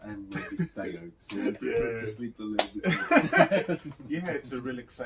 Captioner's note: laughs